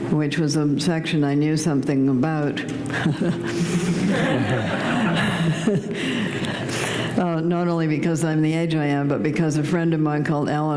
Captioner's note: laughter